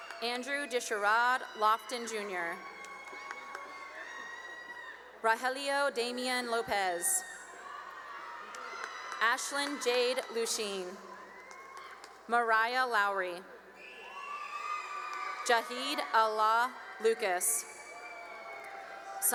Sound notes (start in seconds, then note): 3.0 cheering and applause; 6.4 cheering and applause; 13.7 cheering